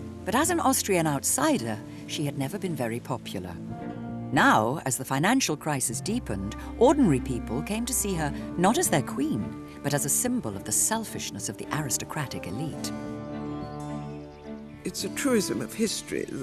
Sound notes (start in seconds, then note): 13.0 birds chirping; 13.0 tense music